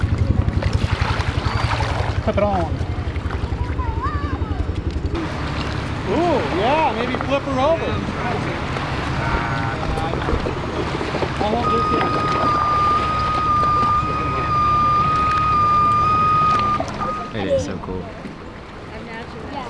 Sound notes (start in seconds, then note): 1.6 water splashes; 6.6 male Voice; 11.3 tow truck beeps; 17.5 male Voice; 19.5 background chatter